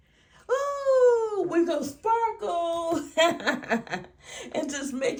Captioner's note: laughs